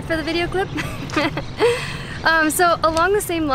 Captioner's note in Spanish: Risas